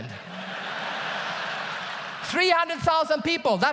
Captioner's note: audience laughs loudly